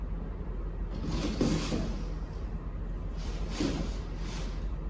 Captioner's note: rustling